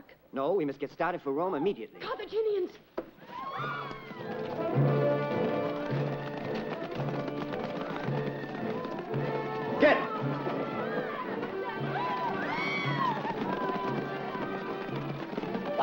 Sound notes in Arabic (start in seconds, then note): 3.2 صرخات النساء; 3.6 موسيقى أوركسترالية درامية; 5.5 ضربات حوافر; 11.1 موسيقى أوركسترالية درامية; 12.5 صراخ النساء; 13.5 موسيقى أوركسترالية درامية